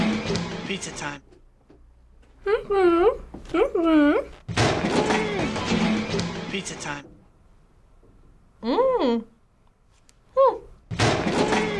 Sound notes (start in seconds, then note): 2.4 hums; 8.7 hums